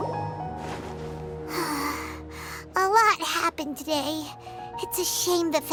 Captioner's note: sigh